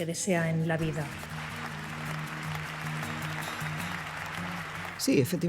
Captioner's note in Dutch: applaus